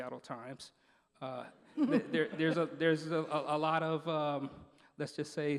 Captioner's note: laughing